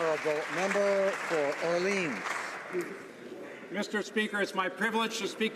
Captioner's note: applause